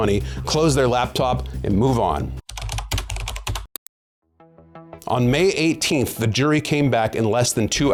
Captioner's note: keyboard clacking